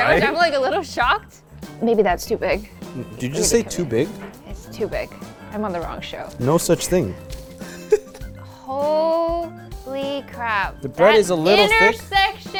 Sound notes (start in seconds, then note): 7.6 laughing